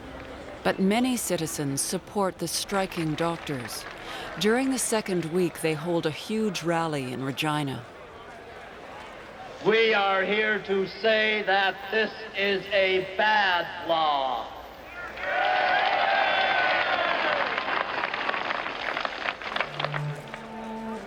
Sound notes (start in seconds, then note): 15.2 applause